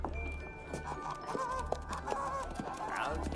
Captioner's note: geese quack